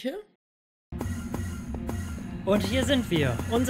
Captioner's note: teleport sounds